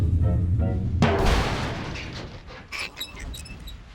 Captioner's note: metal clanging